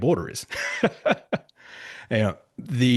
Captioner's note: laughs